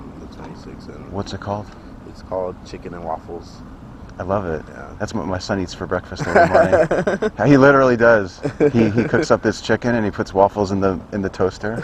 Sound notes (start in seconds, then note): 6.2 laughs